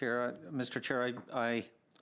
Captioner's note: speaking French